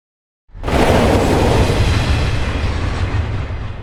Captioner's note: rumbling decreasing